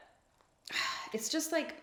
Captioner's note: sighs